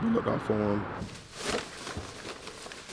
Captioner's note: plastic rustling